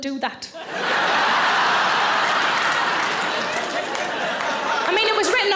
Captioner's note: audience laughing